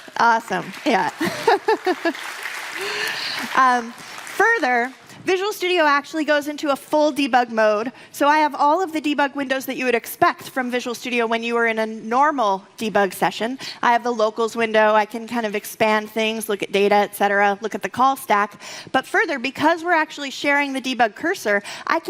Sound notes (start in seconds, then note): 1.1 laughs